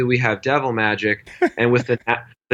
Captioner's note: laughs